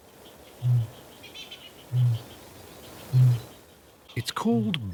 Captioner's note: kakapo booming